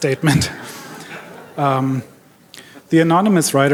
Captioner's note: audience laughing